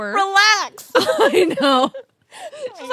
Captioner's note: laughs